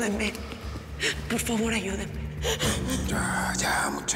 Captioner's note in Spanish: Sollozos